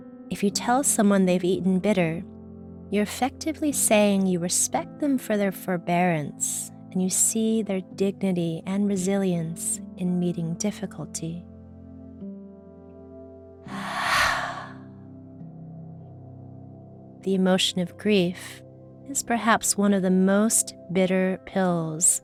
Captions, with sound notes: If you tell someone they've eaten bitter, you're effectively saying you respect them for their forbearance and you see their dignity and resilience in meeting difficulty. (heavy exhaling) The emotion of grief is perhaps one of the most bitter pills